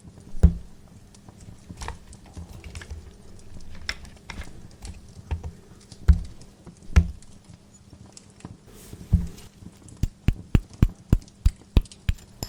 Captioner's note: more cubes into mortar, more grinding